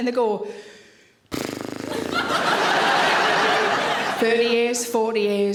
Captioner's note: Sarah exhales; audience laughing